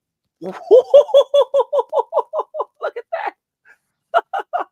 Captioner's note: laughs